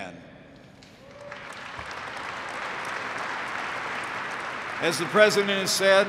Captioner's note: applause